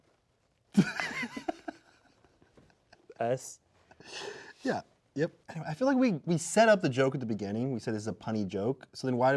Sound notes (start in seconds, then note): 0.7 laughing